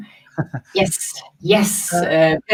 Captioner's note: laughing